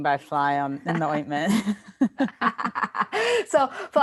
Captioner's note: laughing